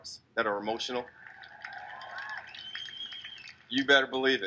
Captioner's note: crowd cheers